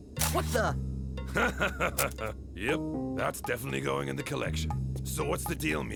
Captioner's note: laughing